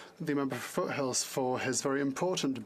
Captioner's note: speaking French